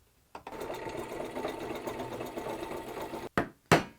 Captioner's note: slow drill whirring; gentle hammering